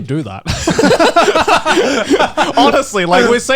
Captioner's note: hosts laughing